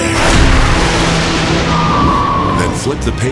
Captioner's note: dragon shrieking